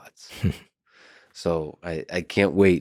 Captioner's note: laughs